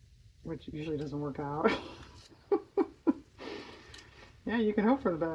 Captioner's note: laughs